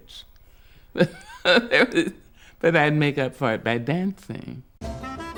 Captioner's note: laughs